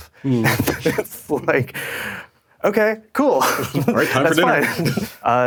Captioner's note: chuckling